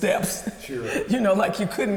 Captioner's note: laughs